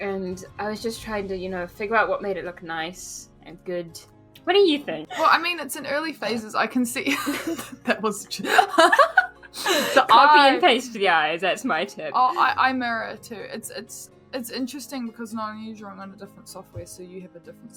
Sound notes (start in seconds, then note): 8.4 laughter; 8.4 both laugh